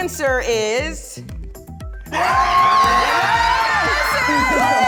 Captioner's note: cheering